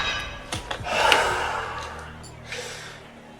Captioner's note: suspicious music; sighs